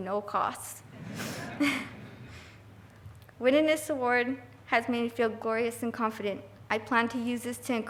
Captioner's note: laughing